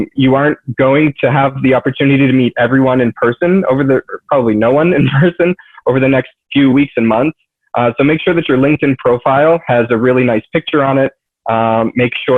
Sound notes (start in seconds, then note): 4.8 laughs